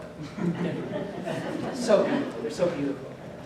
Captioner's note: laughter